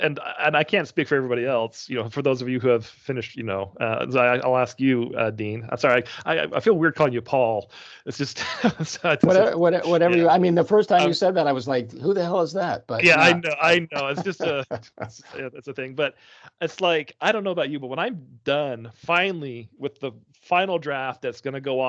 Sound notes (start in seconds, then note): 8.1 chuckling; 13.0 laughing